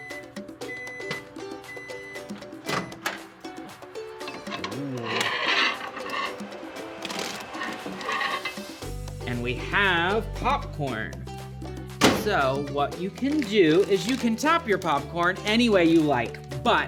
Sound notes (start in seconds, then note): 1.6 beeping; 6.5 plate scraping